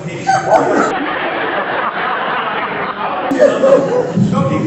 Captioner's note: laughs